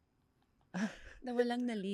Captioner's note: laughs